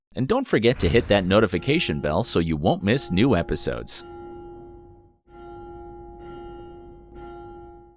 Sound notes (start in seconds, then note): 5.2 bell ringing